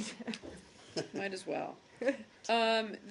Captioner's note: laughter